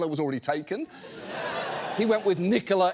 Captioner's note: studio audience laughs